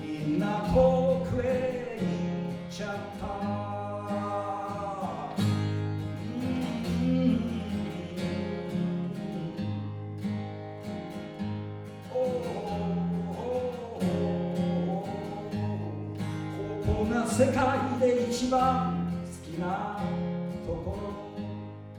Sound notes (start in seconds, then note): 6.4 humming